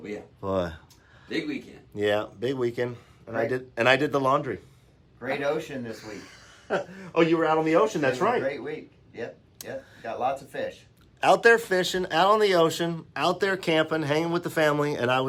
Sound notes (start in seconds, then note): 5.9 laughs